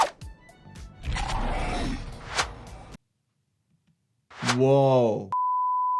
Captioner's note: creature groans; eyeballs squish